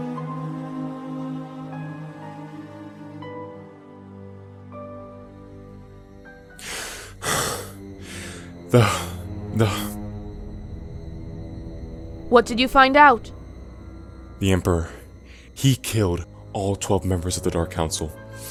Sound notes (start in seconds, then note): 6.6 heavy breathing